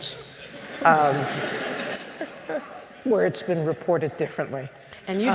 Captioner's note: laughter